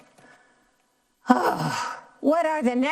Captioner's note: sighs